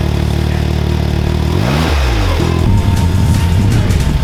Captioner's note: engine revs